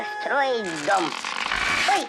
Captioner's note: branch breaks